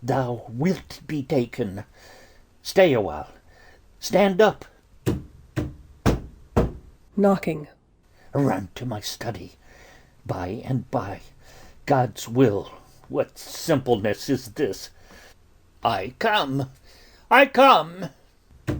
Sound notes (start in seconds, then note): 5.0 _Knocking._